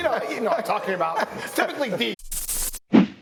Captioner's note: laughter